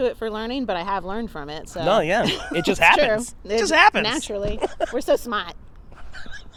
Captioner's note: laughs